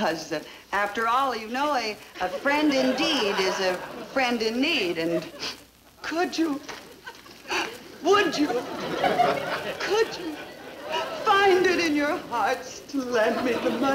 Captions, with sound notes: you know a, a friend indeed is a friend in need and... (sniffling) Could you, (sobbing) would you? (audience laughing) Could you find it in your hearts to lend me the money?